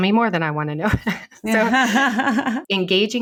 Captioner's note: laughing